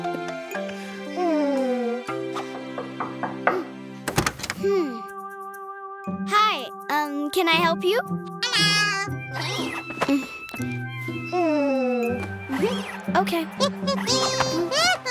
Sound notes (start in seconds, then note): 2.7 knocking on door; 10.5 Cookie purrs; 13.6 Cookie chuckles